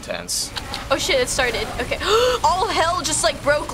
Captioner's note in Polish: wdech